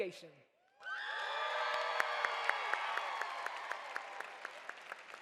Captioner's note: audience cheers